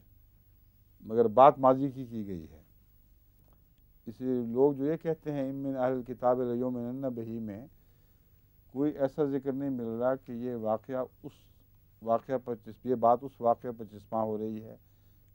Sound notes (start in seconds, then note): 5.5 Arabic